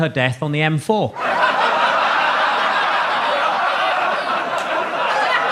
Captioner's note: audience laughs